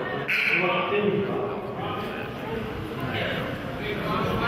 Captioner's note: buzzer honks